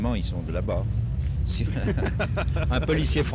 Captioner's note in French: rires